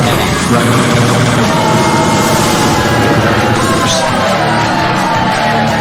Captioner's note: audience booing